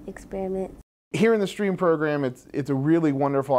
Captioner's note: voiceover